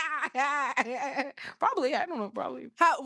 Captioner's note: laughs